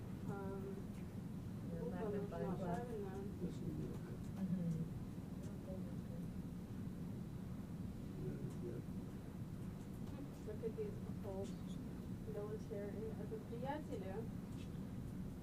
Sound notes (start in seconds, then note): 4.8 mumbling